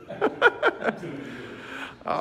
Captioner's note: laughing